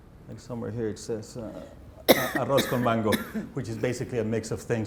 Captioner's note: speaking Spanish